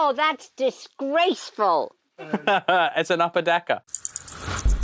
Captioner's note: laughs